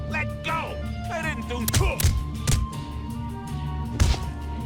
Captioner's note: goon grunts